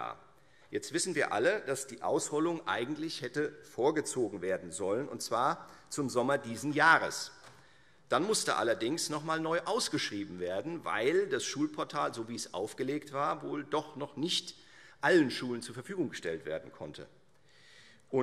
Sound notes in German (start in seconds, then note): none